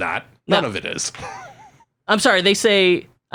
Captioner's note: laughs